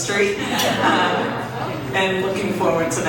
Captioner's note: audience chuckles